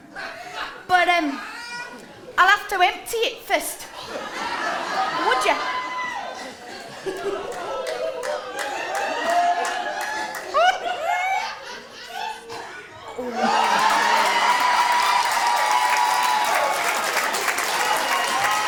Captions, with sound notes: But… erm… I’ll ‘ave to empty it first.’ Would ya? [audience screams of anticipation] [audience laughter] [applause]